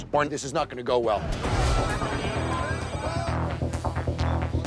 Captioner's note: timer ticking; tense music